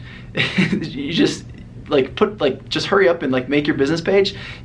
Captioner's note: laughs